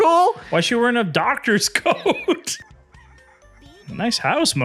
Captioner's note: laughs